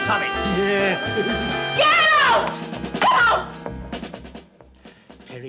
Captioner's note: giggling; screaming